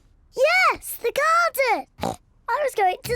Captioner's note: snorts